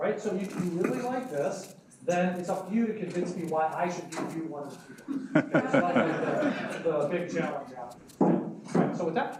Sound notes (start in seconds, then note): 5.0 laughing drowns out speaker